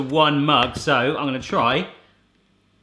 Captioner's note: groaning